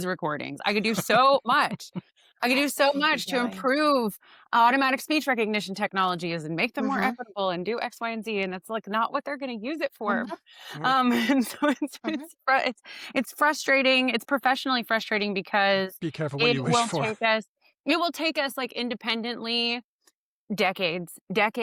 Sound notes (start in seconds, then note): 10.7 lauighs